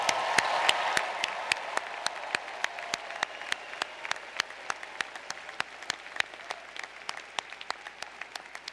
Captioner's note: applause